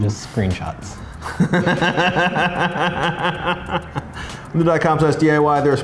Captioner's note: laughing